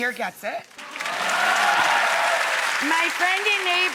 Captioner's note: audience applauding